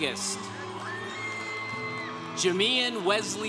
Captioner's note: congregation cheering